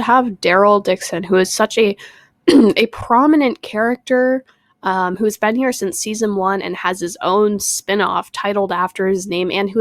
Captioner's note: clears throat